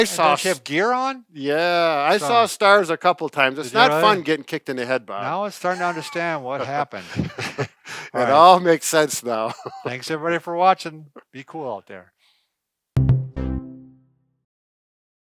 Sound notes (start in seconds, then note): 7.4 jovial laughing; 13.0 upbeat music